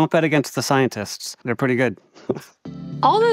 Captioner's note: chuckling